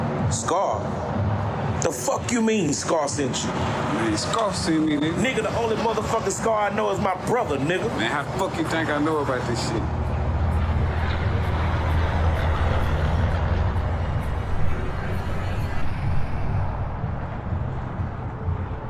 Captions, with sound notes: - Scar, the fuck you mean Scar sent you? - Man, Scar sent me, nigga. - Nigga, the only motherfucking Scar I know is my brother, nigga. - Man how the fuck you think I know about this shit? (dramatic music) (traffic roaring)